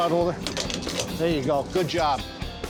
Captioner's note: clicking into place